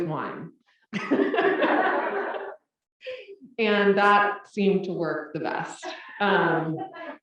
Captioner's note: laugh